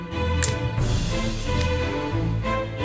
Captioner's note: click